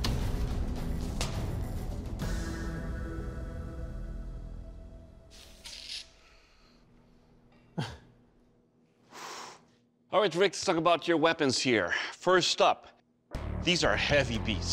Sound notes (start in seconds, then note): 7.0 laughs; 9.0 exhales